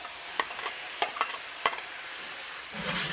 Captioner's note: sizzling